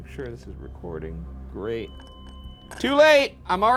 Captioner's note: light beeps